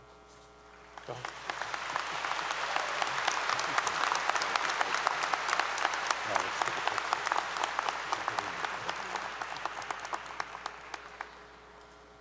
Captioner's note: applause 👏 👏